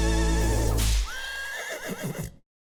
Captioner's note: horse whinnies